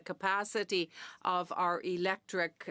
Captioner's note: speaking French